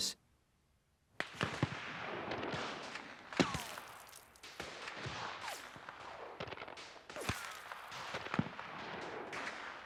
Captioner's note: explosions and gunfire